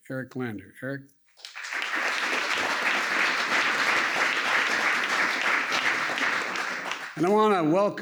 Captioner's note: applause